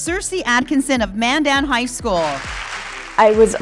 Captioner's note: audience cheering